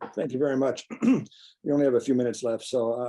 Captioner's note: clears throat